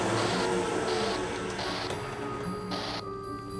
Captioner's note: static from walkie-talkie